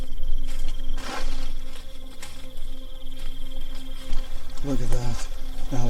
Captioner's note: owl hooting; leaves crunching